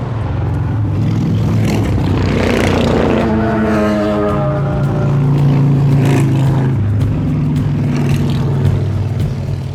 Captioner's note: loud motorbikes passing by the house while I'm trying to speak